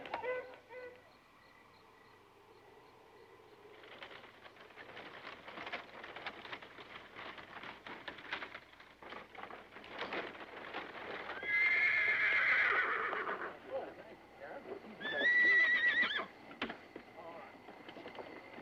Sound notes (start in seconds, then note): 0.3 crickets chirping; 10.8 horses whinnying